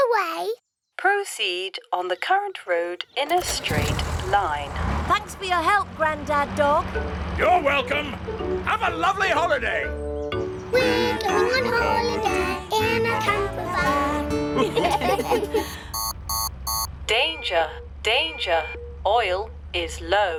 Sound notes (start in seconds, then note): 14.5 laughter; 14.9 beeping